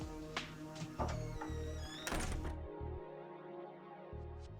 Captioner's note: creaking